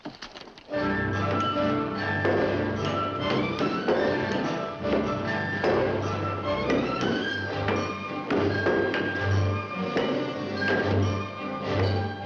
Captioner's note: epic orchestral music; tools and hammers banging